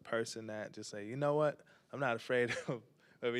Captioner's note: laughs